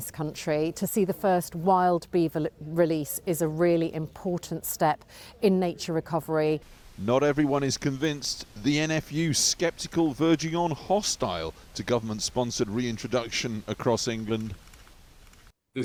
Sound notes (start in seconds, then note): 7.6 voice-over